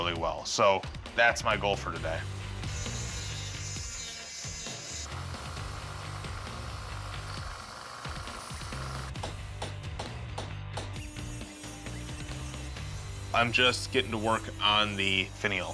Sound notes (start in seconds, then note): 2.2 grinding; 8.3 hammering